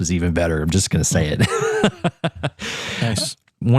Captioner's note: laugh